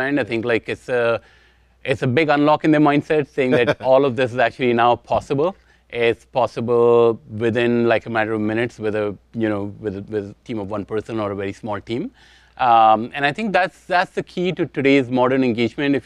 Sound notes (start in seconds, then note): 3.4 chuckles